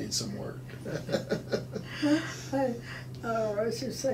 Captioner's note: laughing